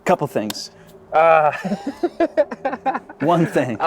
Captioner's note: laughing